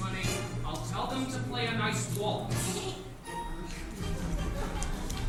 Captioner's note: Ernestina giggles